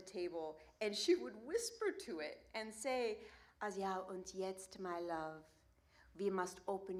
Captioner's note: German language